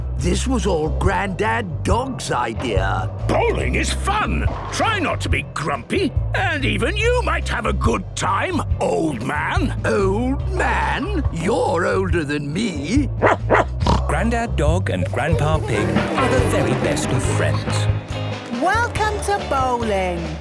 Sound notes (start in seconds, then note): 13.2 barking, snorting